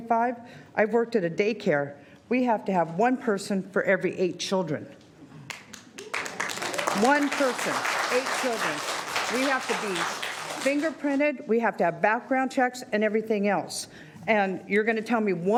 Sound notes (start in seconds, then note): 9.6 applause